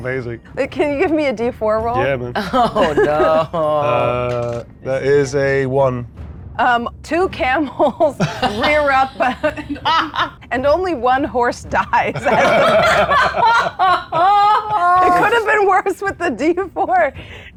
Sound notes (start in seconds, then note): 12.0 players laughing